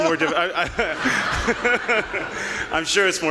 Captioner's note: audience laughing